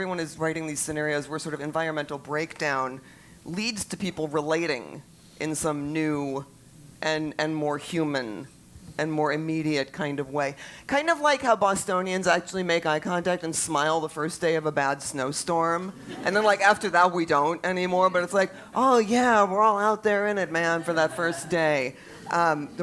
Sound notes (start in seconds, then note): 15.9 laugh